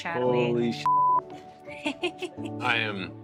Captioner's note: beep